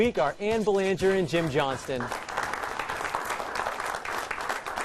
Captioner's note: applause